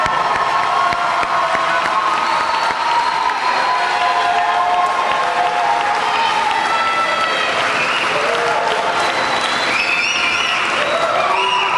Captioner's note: applause